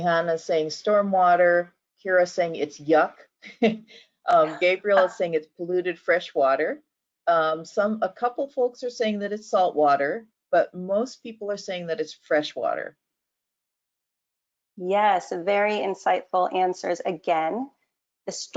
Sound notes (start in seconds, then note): 4.4 laugh